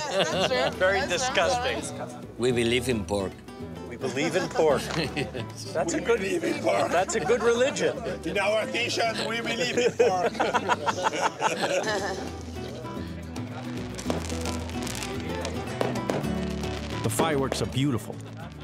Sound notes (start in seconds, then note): 5.2 deep voice; 9.0 laughing; 13.6 fireworks exploding